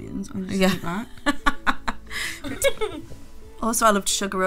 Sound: laughing

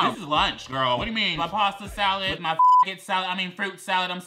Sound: beep

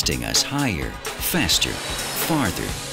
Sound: jet engine roaring

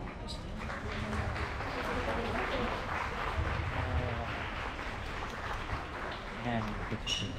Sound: applause

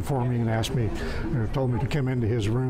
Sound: laughs

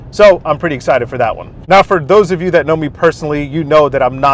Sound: none

